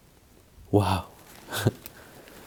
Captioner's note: chuckles